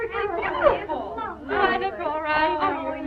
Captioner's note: excited chatter